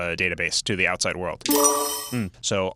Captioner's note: chiming